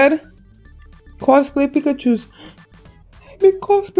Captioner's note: gasp